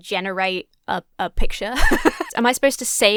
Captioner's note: laughs